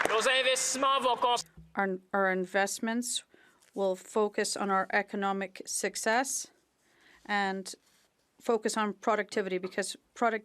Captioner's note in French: applaudissements